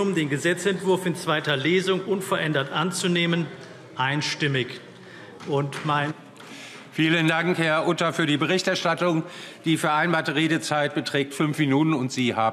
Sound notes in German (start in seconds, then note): 4.8 Vereinzelter Beifall CDU